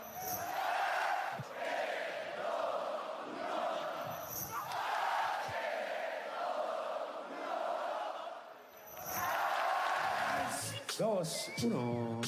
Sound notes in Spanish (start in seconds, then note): 0.1 Vítores; 4.4 Vítores; 9.0 Vítores